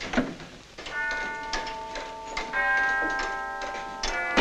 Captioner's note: clock chiming